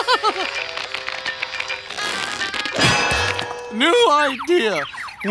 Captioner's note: laughing